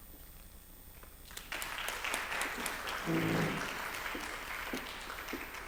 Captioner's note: applause